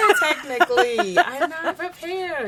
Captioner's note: laughs